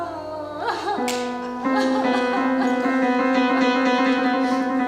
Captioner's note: crying; somber piano music